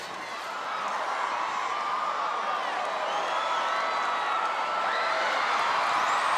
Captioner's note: audience applauding and cheering